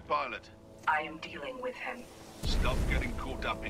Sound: radio

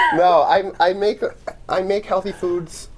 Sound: laughter

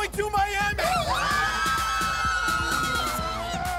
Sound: cheers

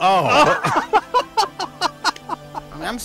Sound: laughter

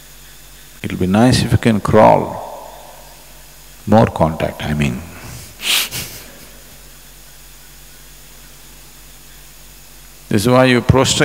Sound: laughs

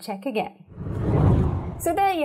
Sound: scene whooshes

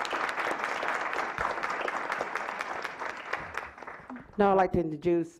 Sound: clapping

